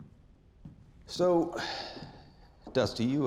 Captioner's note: footsteps; sighs